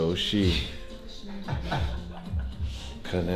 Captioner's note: Laughs